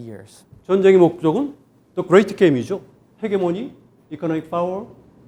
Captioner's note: speaking in Korean